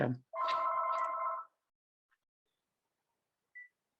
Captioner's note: phone ringing